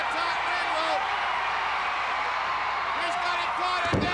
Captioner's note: crowd cheering